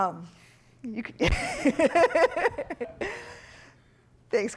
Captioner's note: laughter